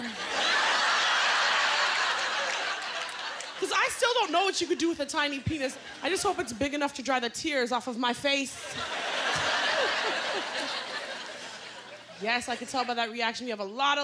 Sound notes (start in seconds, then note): 0.0 laughter; 8.6 laughter